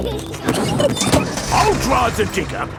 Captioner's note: peppa and george laughing